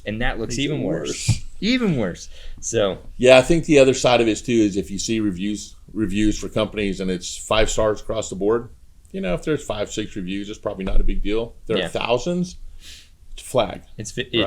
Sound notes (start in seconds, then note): none